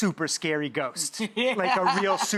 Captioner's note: laughs